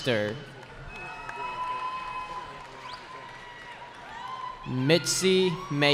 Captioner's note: cheering